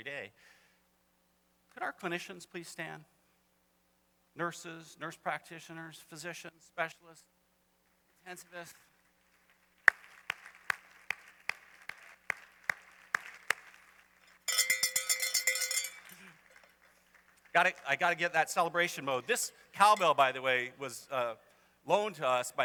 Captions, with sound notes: Could our clinicians please stand? Nurses, nurse practitioners, physicians, specialists. Intensivists. [applause] [cowbell clangs] I gotta get that celebration mode. This cowbell, by the way, was loaned to us by the